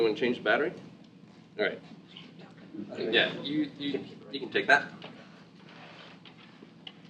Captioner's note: laugh